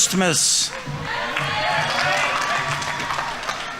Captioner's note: audience members cheering; audience applauding